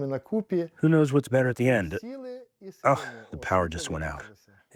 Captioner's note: through translator